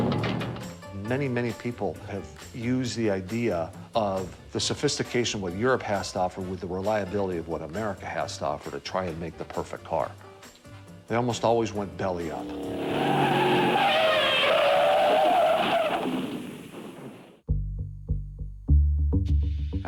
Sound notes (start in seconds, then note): 0.0 car starts; 12.2 car skids around corner; 17.4 deep bass plays